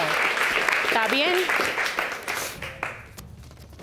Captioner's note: speaking spanish